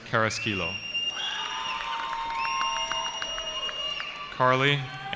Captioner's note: cheering